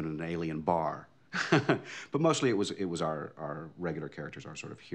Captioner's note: laughing